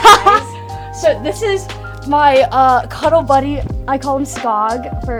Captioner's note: laughs